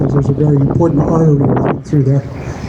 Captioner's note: none